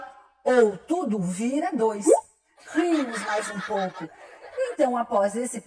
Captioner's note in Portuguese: som de risadas de criança ao fundo